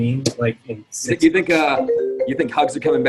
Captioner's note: phone ringing